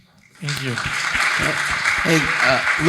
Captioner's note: audience applauding